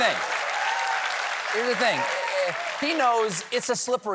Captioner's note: cheering and applause